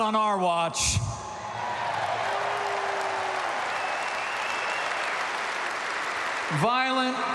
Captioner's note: applause